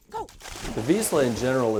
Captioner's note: water splashing